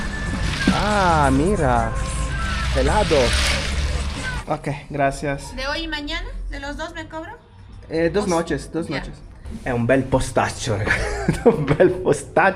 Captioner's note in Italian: risate